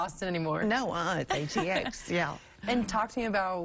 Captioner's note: laughter